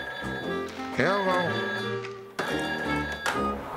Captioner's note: receiver clacks